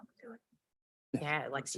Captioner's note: unmiced voice talking